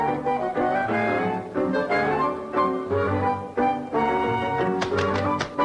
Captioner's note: playful music; ball bounces